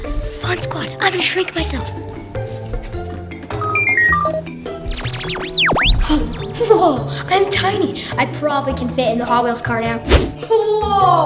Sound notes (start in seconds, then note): 5.2 keypad beeps